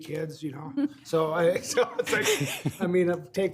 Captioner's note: all laughing